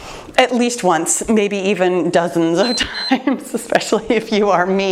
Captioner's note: timer beeps